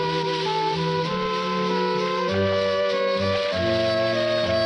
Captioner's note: water splashes